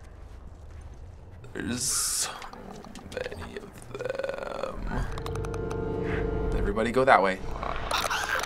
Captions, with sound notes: There's so many of them. (Clicker croaks) Everybody go that way.